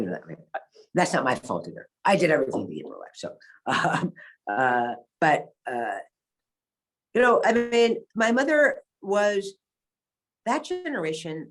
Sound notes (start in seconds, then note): 4.7 laughs